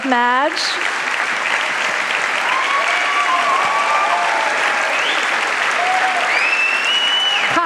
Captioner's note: applause